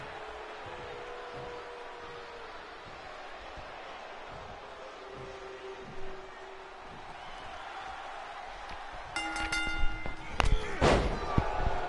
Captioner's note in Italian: Applauso